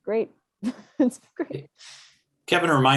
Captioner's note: laughing